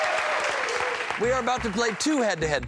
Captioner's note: cheers and applause